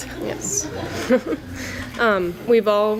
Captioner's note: laughter